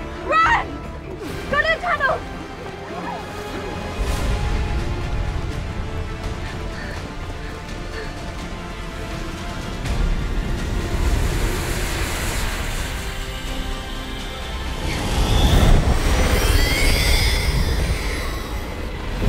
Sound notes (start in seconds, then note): 6.4 panting